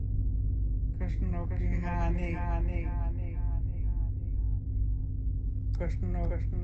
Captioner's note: woman speaking Ojibwe language